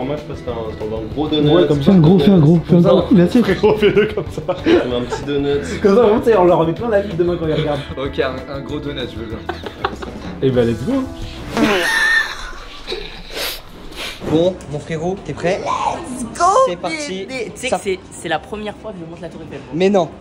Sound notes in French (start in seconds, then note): 11.6 rires